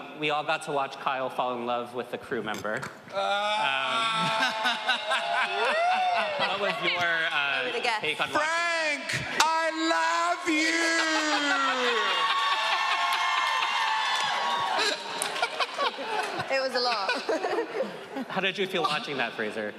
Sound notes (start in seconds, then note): 3.1 moaning; 3.2 laughing; 11.7 audience cheering